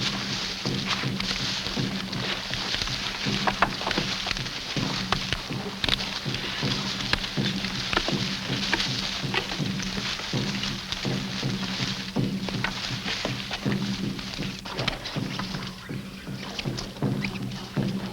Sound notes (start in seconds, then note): 3.7 boat clatters; 3.7 grass rustles